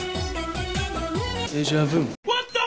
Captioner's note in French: accent anglais